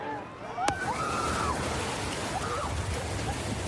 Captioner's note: excited screaming